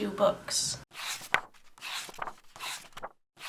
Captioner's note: pages turning